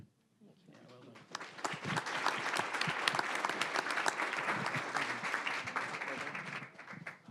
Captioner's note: applause